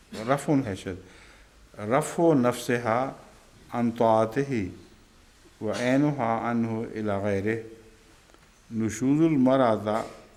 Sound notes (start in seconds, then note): 1.8 Arabic